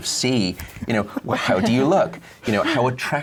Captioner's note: everyone laughs